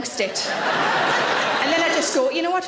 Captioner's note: audience laughing